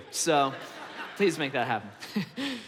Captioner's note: congregation laughs; chuckles